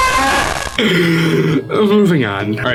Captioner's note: inhale